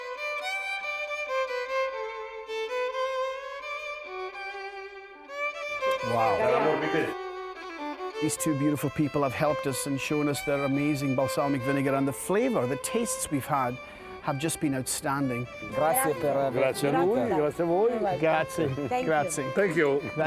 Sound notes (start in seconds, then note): 0.3 airy violin music; 7.3 airy violin music; 16.1 speaking Italian